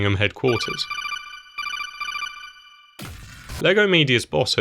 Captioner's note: Metal Gear Solid codec ringtone